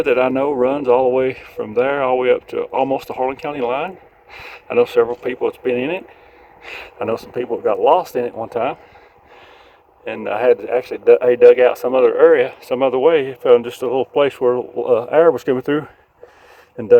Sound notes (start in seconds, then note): none